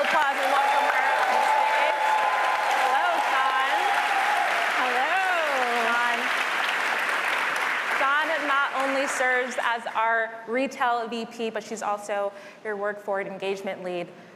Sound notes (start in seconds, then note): 2.6 applause